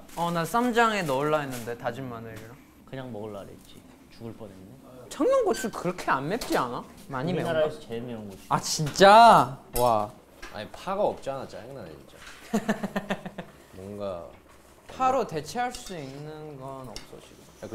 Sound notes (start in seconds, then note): 12.4 laughing